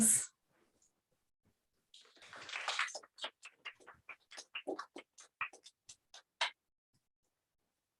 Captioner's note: applause